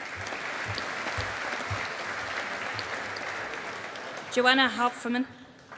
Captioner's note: audience applauding